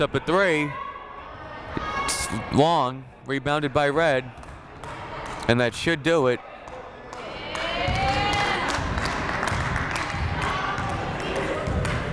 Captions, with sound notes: Leathers puts up a three, it's long. Rebounded by red, and that should do it. (crowd clapping)